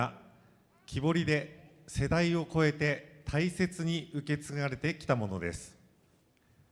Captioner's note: speaking foreign language